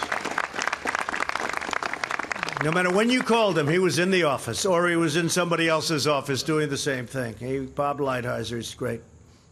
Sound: applause

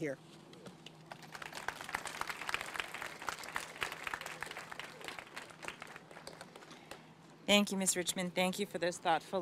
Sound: applause

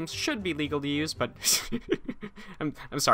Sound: chuckles

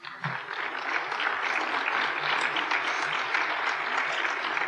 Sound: applause

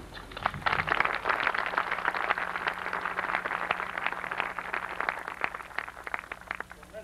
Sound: applause

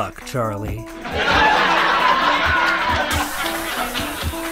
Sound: laugh track

